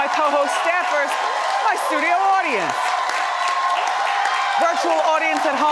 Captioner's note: audience cheers